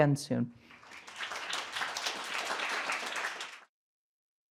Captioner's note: applause